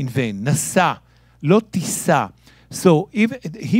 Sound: speaking in Hebrew

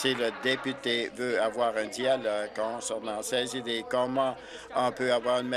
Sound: applause

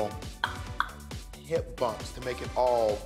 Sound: clicks tongue

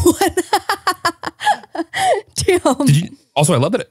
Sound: laughs

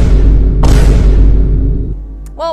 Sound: Vine Boom x3; Vine Boom x4

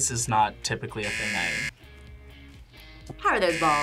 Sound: buzzer rings

